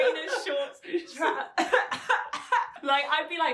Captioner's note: coughs